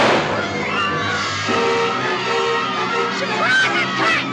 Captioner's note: boys Shouting